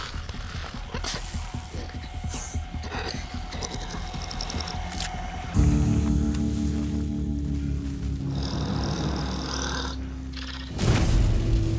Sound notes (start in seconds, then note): 0.4 snake hisses; 1.3 light dramatic music